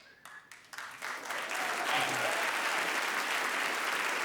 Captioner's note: audience applauding